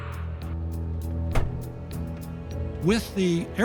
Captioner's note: plane door shuts